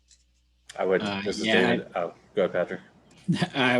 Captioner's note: indistinct chatter